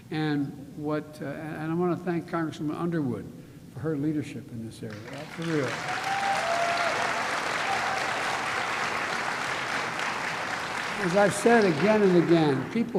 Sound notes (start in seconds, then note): 5.4 applause